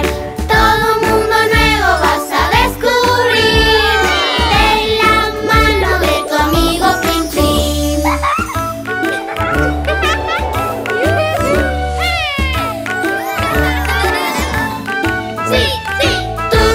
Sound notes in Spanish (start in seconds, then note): 7.7 Música Alegre; 9.0 Risas